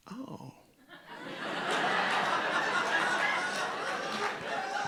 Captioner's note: audience laughing